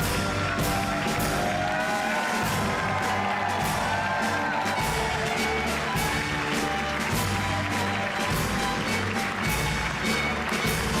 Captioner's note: cheers and applause